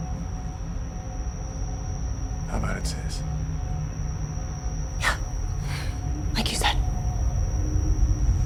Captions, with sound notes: - How about it, sis? - Yeah. (sighs) Like you said.